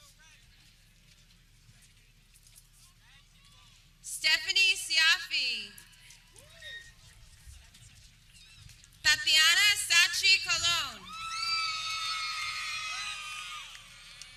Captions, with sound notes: Stephanie Cioffe (people clapping) Tatiana Sache Colon (people cheering)